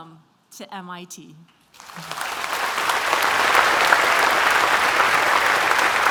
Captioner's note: applause